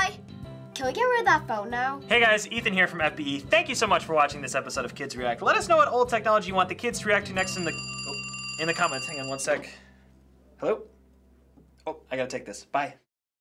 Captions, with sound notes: Can we get rid of that phone now? - Hey, guys, Ethan here from FBE. Thank you so much for watching this episode of Kids React. Let us know what old technology you want the kids to react to next... (phone ringing) ...in the comments. Hang on one sec. Hello? Oh, I gotta take this. Bye.